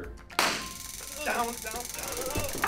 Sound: taser popping; taser buzzing; moaning; grunting; knees thudding; taser rattling

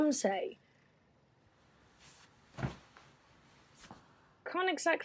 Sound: shifting sounds

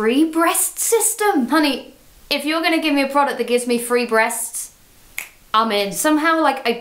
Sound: snaps

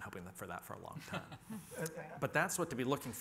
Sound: panelists laughing

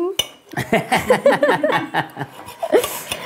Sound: he laughs

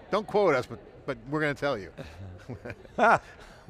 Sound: chuckles; laughs

